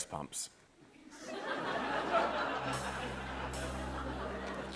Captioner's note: laughter